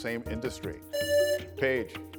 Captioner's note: buzzer rings